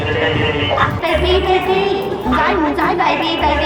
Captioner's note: speaking Cambodian; "Speaking" Cambodian